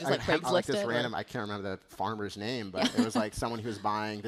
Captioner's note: laughter